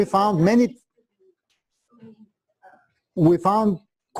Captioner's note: pause